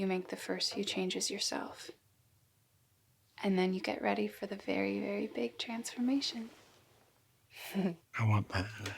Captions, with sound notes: the first few changes yourself. And then you get ready for the very, very big transformation. [laughs] I want that.